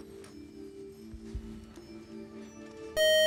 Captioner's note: time out buzzer